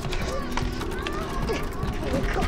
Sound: door rattling

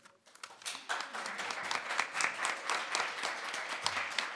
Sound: audience applauding

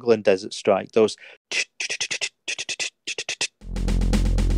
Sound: snare drum beatboxing

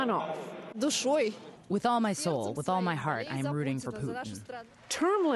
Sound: through translator

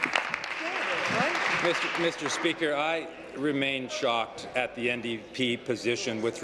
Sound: applause

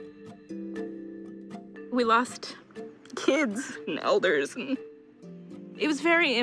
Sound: voice breaking

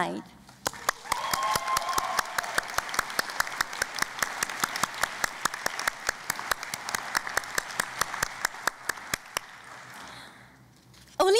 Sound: cheering and Applause

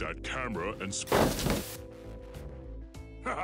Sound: static noise

